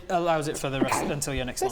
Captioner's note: achoo!